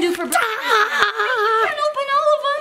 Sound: yells

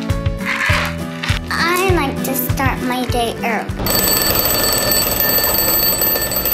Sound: ring

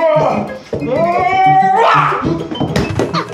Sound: yelling

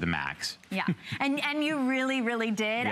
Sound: laughter

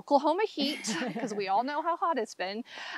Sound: laughs

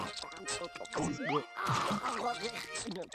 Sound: munching; gulping

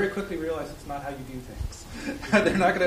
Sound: chuckling

